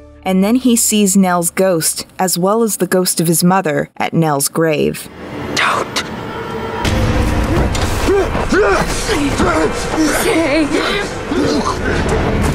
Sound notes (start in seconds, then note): 6.6 intense music; 8.0 Luke struggling